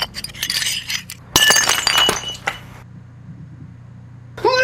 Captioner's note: shattering noise